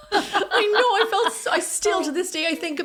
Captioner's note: both laughing